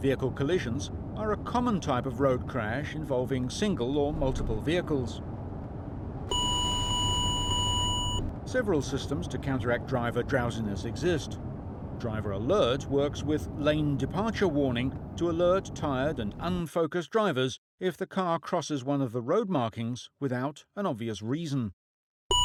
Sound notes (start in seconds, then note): 6.3 beeping